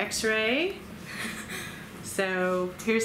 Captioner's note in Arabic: ضاحكا